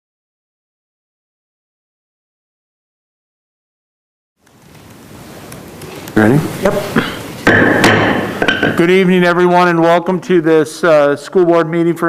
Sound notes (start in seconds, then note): 7.4 gavel thudding